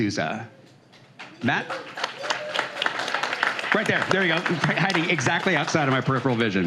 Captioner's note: applause